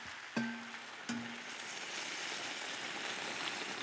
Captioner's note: sizzling